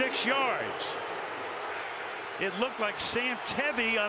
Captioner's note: crowd boos